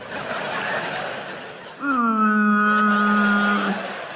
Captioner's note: whale sounds